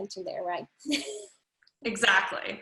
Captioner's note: chuckles